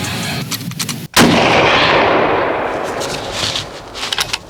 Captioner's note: gun fires